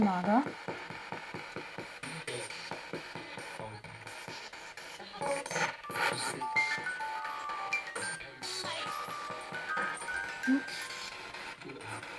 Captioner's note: sound of the Spirit Box in the background